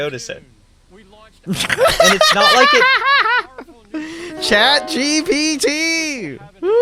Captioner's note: laughs